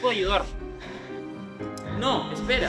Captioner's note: breathes heavily